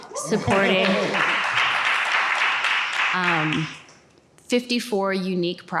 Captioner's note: audience clapping